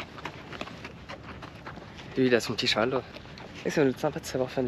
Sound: footsteps; speaking in foreign language

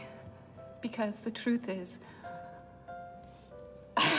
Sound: laughs

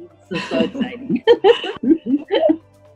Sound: laughs

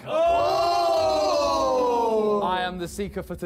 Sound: men exclaim loudly

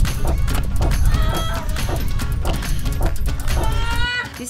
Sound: yelling

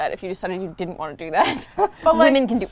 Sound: laughs

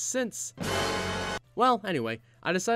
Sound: dramatic Sound Effect

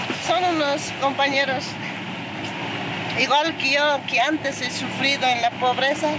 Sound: speaking in foreign language

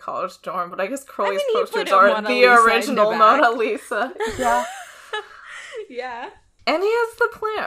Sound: both laugh

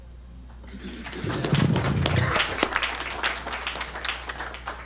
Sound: audience clapping

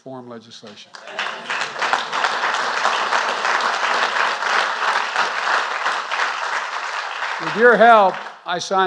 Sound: applause

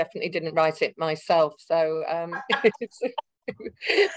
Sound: speaking faintly; laughing

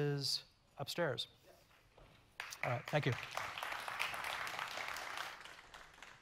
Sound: audience clapping

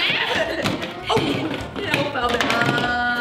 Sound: laughing

